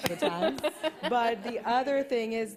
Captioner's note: laughter